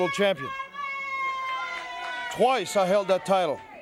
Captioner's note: crowd cheers